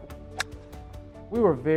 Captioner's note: golf club hitting ball